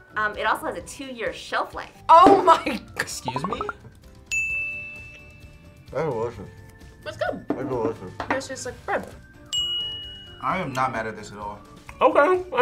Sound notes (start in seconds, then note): 2.8 laughs; 4.3 bell rings; 9.5 bell rings